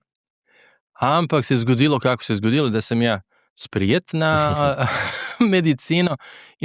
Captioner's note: laughs